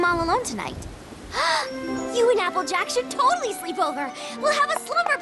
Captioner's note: gasps